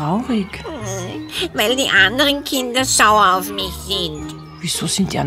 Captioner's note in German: Schluchzend